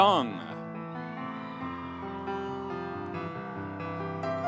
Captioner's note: audience cheering